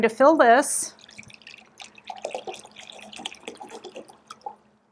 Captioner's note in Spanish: agua saliendo